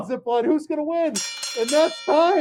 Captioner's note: bell ringing